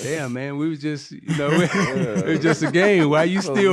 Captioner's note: laughing